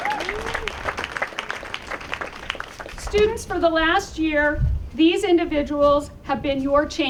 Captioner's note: applause